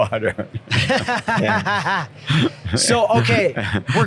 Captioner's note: laughs